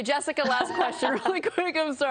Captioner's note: laughter